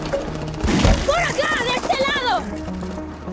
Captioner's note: rapid gunshots; in Spanish